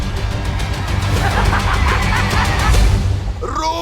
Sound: cackling

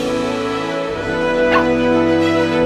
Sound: barking

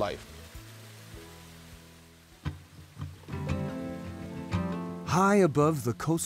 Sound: river rushing

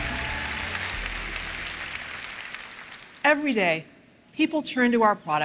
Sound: applause

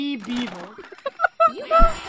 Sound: laughter

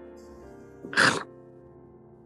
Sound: chomps

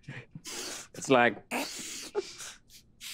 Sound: sniff; another sniff

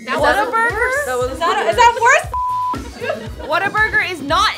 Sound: beep

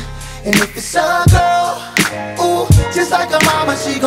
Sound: ooh

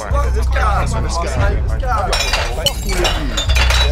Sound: smashing glass

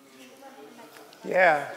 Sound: background conversations

